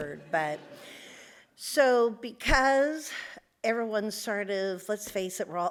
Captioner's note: audience laughs